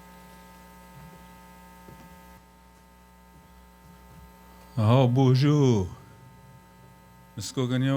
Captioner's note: speaking Anishinaabe